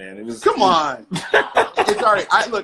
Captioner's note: laughing